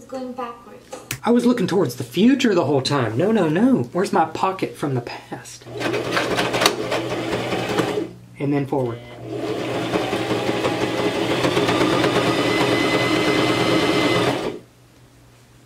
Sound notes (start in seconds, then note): 5.6 sewing machine; 9.2 sewing machine fast